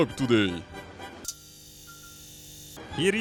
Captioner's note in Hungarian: Röntgen zajok